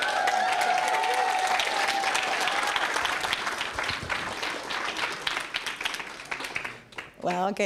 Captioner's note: applause